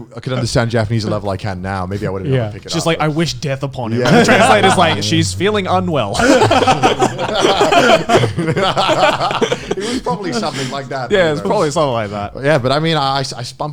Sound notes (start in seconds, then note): 6.3 laughing